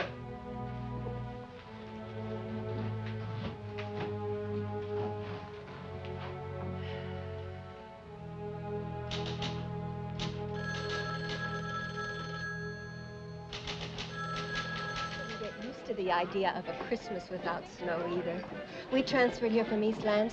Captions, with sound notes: [typing] [phone ringing] -I couldn't get used to the idea of a Christmas without snow, either. We transferred here from East Lansing.